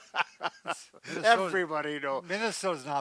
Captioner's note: laughter